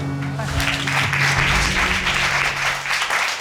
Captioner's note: audience applauding